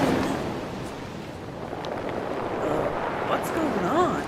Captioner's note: waves crashing